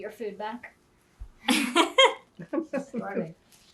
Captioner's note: laughing